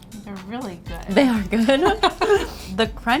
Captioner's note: laughs